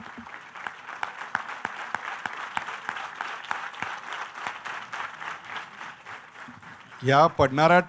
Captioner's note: applause